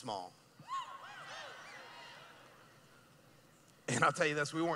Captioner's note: cheering